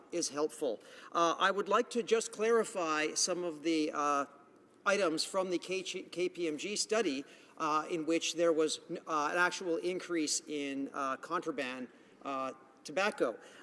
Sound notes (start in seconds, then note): none